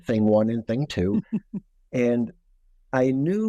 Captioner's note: laughing